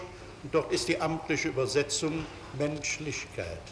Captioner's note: German